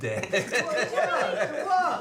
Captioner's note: family laughing